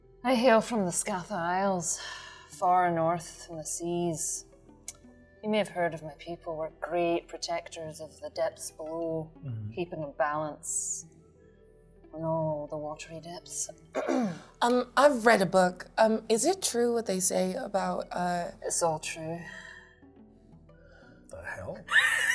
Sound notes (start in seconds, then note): 13.9 clears throat